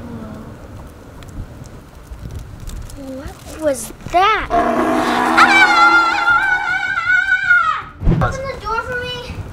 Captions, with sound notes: Whoa. What was that? (T-Rex roars) (girl screams) Open the door for me.